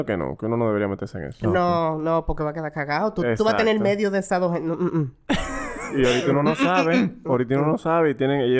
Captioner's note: laughs